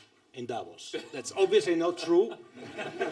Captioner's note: laughter